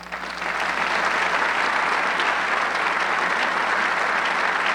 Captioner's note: audience clapping